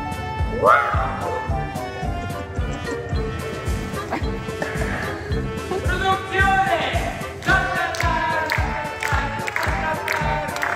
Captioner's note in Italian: Applauso